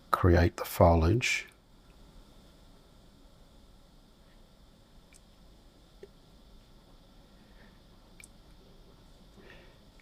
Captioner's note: silence